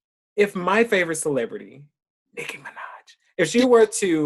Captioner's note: whispering